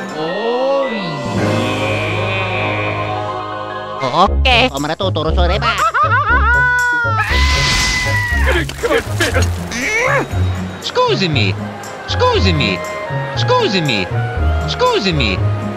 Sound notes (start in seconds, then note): 6.6 screaming; 8.3 grunt